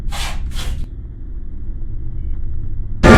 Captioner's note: feet scraping on concrete